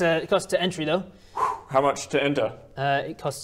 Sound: phew

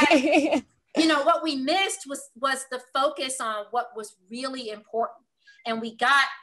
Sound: laugh

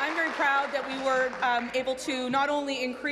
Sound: applause

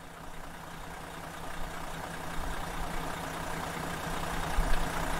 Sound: motorcoach engine idling

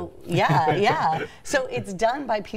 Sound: laughing

